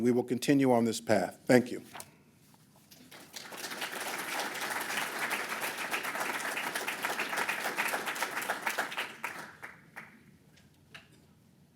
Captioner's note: applause